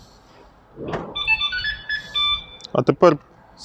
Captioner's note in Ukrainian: звук: автомобіль став на охорону